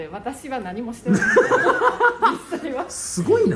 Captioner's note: laughs